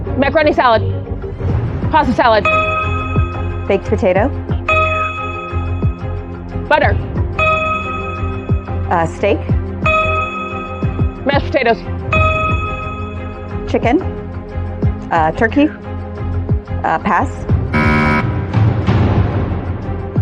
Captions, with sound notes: caroro salal. BaBad popotatoto PaPaa lad.d. , , stk.k. shshedototats.s. Chicken. Uh, turkey? -Uh, pass. -(BUZZER SOUNDS)